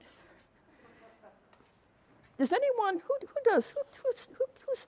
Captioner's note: attendee chuckles